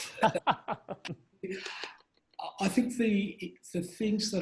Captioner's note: laughs